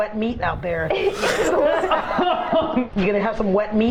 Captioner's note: scandalous laughter